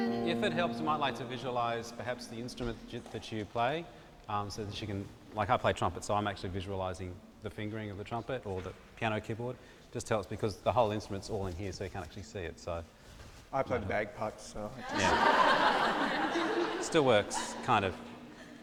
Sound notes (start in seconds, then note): 14.8 laughter